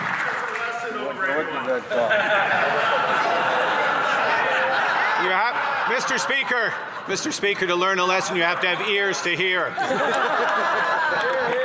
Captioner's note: some Applause